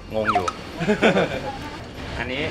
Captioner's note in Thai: เสียงหัวเราะ